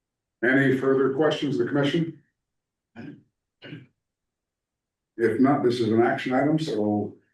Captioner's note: clears throat